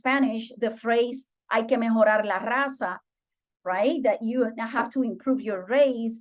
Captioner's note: speaking Spanish